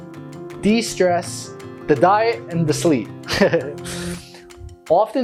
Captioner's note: laughs